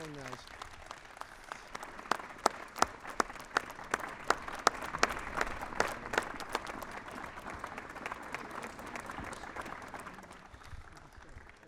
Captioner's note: applause